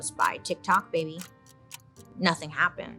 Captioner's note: clock ticking